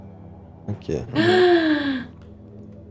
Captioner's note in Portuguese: Suspiro surpreso